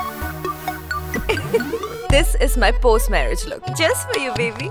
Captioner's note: Kanchan giggling